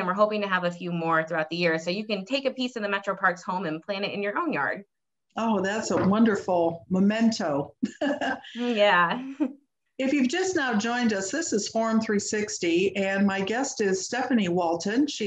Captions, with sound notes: And we're hoping to have a few more throughout the year. So you can take a piece of the Metro Parks home and plant it in your own yard. - Oh, that's a wonderful memento (laughs). - Yeah. - If you've just now joined us, this is Forum 360 and my guest is Stephanie Walton.